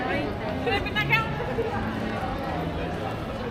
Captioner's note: people chattering